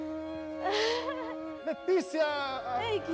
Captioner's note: chuckles